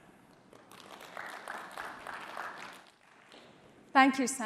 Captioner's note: applause